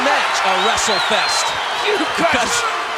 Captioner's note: audience cheering